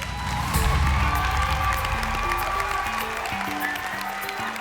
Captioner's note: cheering